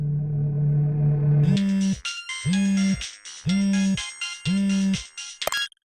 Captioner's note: wam!... music tenses; incoming phone call vibration?!; click!